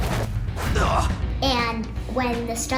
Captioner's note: man grunts